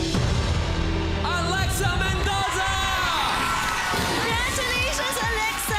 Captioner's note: crowd cheers